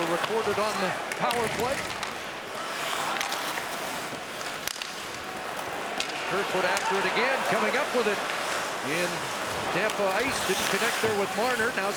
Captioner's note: crowd noise